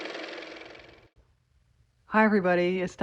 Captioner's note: car motor